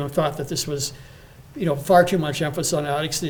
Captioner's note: none